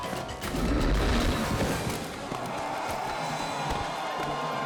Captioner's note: blow whomps